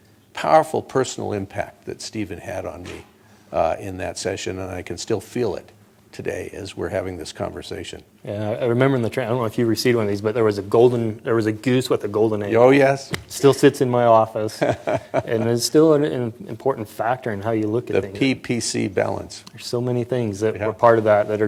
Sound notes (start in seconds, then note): 14.4 laughter